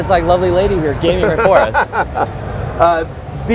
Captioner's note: laughing